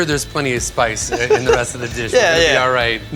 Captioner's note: laughs